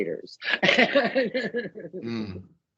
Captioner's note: laughing